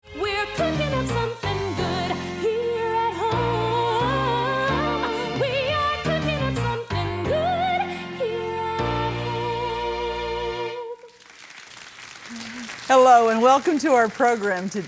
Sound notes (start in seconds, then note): 11.0 crowd applauding